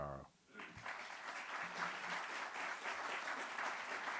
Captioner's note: audience applauding